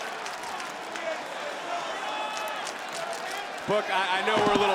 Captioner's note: crowd chants "This is awesome"